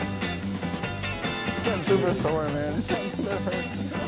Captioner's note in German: Sie sprechen auf Englisch